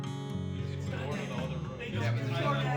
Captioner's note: chatter